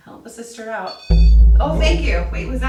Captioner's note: beeping